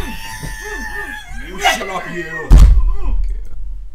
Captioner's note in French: Screams of the damned; Vine boom